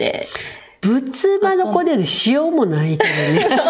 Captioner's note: laughs